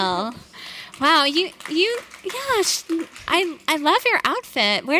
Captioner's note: audience applauding